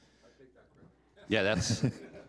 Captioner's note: chuckling